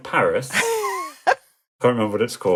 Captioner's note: laughing